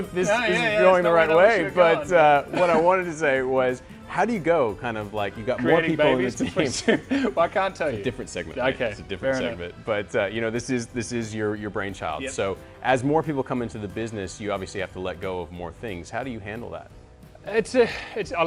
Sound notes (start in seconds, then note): 6.1 laughing